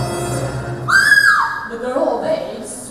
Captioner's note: screams